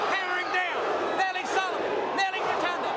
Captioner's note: crowd chatter